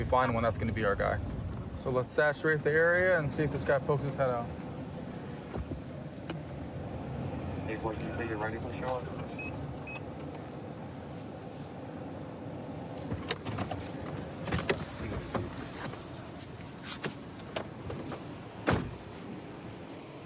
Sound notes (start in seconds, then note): 7.6 indistinct dispatch speech